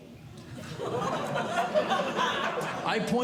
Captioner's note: audience Laughing